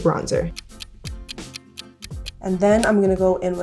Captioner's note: ticking